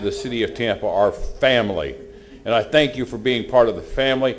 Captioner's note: off microphone